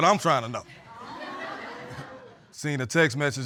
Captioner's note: audience laughs